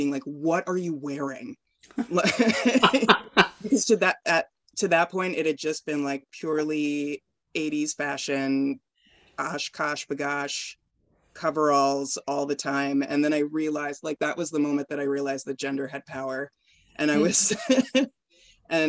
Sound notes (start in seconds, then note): 2.0 laughing